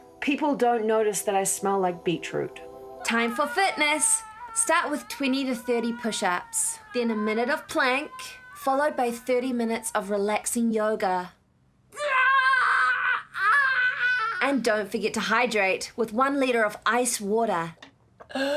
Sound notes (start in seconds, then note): 3.1 screaming; 11.9 screaming